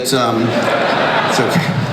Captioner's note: crowd laughs